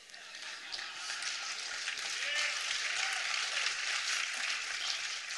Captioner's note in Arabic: تصفيق